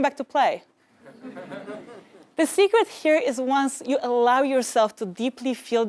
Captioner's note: laugh